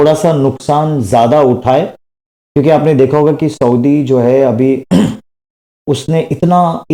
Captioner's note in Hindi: गला साफ़ करने की आवाज़